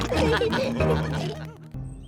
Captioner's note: all laugh